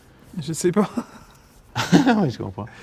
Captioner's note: laughs